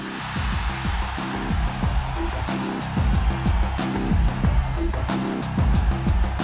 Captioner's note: cheering